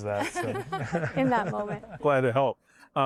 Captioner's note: laughter